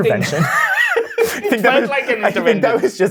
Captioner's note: guy laughing